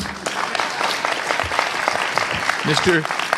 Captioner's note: crowd applauds